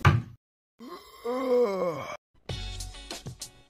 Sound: smack; yawns

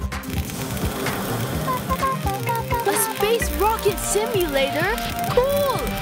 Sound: humming

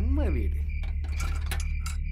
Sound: gate opening sound

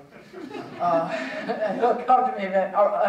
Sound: audience chuckling

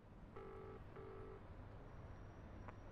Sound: line ringing

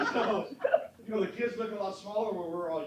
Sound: laughter

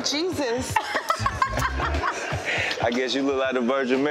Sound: Tammy laughing

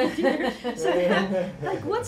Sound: laughter

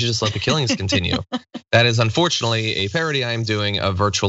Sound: laugh

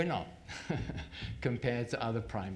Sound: chuckles

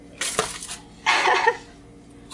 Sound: chuckles

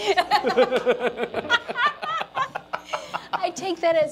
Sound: laughing

